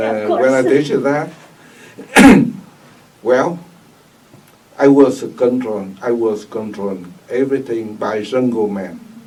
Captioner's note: coughs